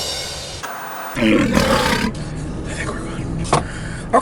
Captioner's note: lion roars